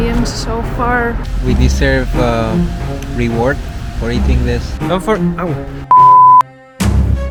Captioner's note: beep